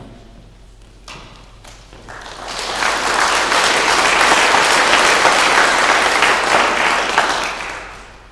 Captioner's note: clapping